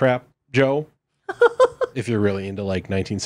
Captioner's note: laughing